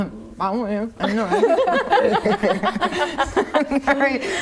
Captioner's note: laughing